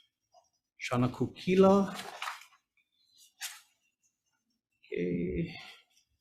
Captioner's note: paper rustling